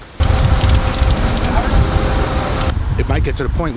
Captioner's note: sound of wind